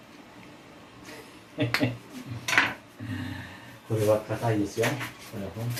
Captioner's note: problems opening black pepper...sigh